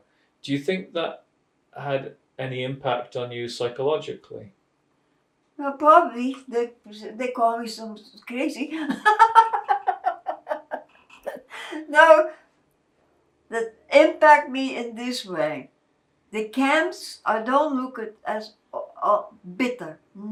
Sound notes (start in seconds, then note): 8.5 laughing